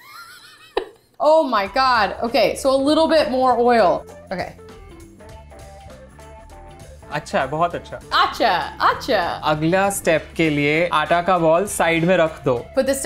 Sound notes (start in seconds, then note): 0.0 laughing; 7.2 speaking in Hindi